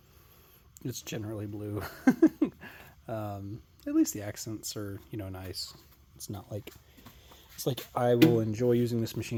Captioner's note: laughs